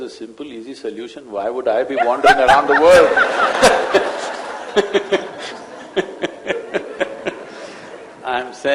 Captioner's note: laughter